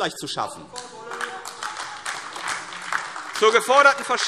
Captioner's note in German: Beifall AfD